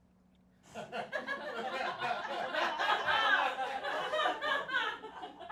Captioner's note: audience laughing